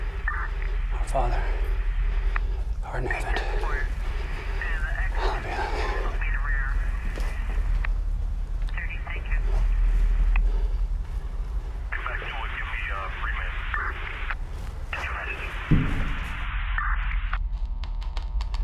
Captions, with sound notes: Our Father, who art in heaven, hallowed be thy name. (police radio chatter) (bump echos)